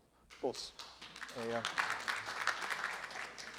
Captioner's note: clapping